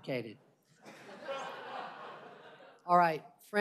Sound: laughter

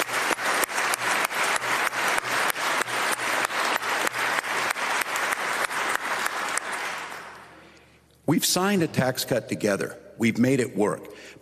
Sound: applause

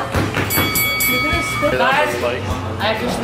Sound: ringing sound

